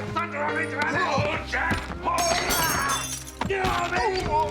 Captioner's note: shattering